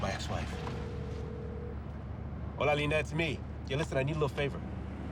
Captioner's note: phone ringing